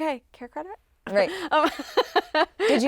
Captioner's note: chuckles